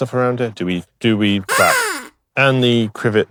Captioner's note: quack